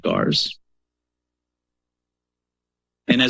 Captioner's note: pause